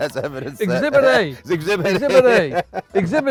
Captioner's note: laughs